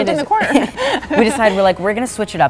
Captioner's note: laughing